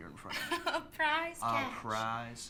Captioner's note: laughs